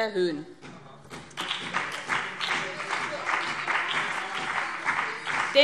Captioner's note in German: Beifall BÜNDNIS 90/DIE GRÜNEN und CDU - Zurufe Freie Demokraten